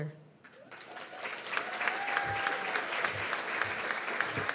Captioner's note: cheers and applause